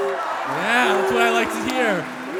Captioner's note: crowd cheers